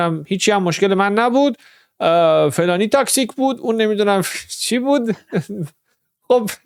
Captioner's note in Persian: خنده